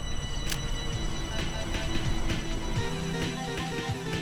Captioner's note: snaps photo; intense eerie music